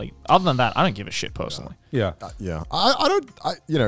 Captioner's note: none